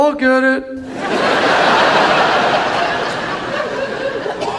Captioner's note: audience laughs